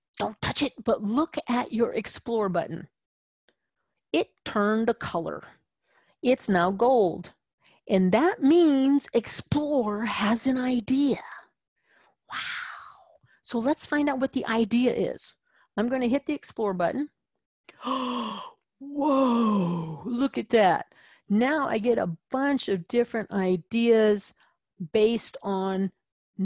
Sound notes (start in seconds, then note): 12.2 whispering; 17.7 gasp